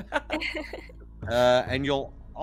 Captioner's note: Calla laughs